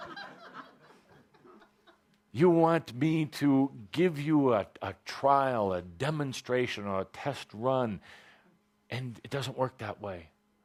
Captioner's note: laughter